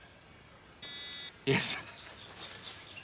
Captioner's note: one beep